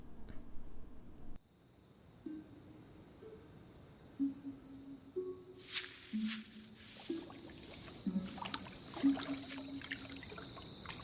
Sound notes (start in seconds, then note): 1.9 minecraft ambient sounds play; 5.6 audible footsteps; 6.8 water can be heard